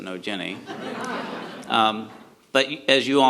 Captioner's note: audience laughs